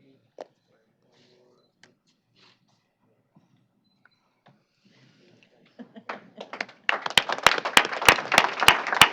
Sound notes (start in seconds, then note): 6.0 applause